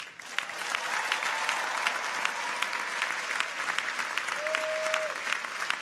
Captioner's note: audience applauds; people cheer